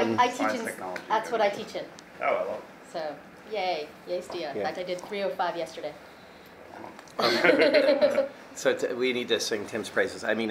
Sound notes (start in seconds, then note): 7.2 both laugh